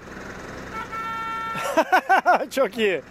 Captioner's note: honking sound